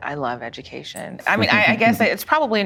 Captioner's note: laughing